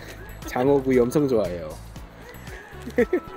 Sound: haha

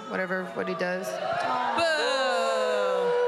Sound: crowd booing

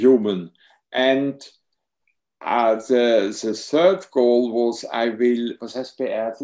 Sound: speaks in foreign language

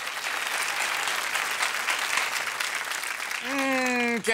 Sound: applause

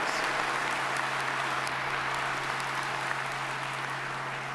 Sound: audience applauding

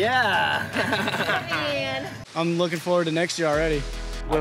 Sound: laughter

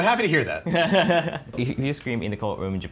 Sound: laughing

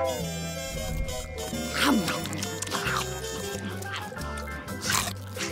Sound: both munching

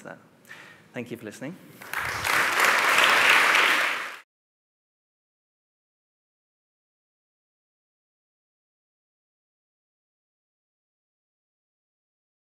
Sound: applause

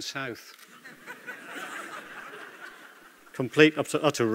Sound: laughter

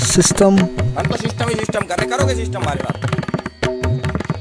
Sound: Hindi

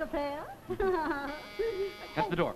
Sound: giggles; door buzzer

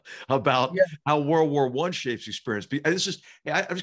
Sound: laugh

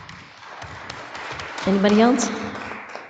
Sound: audience applauding

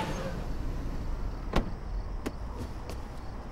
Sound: car engine stops; door opens

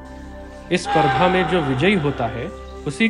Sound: deer Rutting Call

